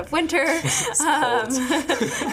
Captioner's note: laughing